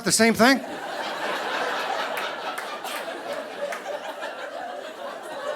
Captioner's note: audience laughing